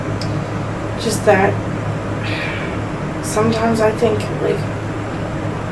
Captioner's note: sighs